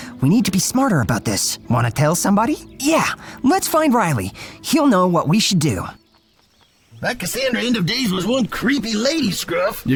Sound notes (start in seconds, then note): 7.1 gruff